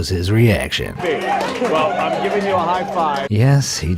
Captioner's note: audience applauding